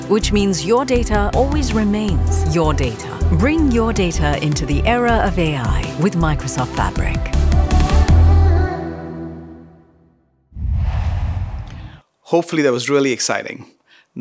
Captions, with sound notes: which means your data always remains your data. Bring your data into the era of AI with Microsoft Fabric. (logo swooshes) - Hopefully that was really exciting.